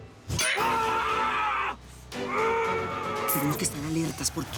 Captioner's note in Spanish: Quejidos